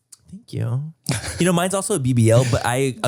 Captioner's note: laughs